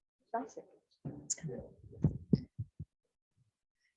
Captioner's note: indistinct chatters